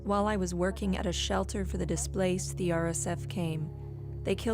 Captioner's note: speaking alternate language